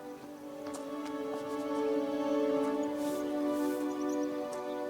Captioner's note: hand patting